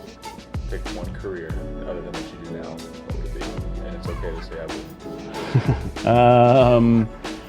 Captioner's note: laughs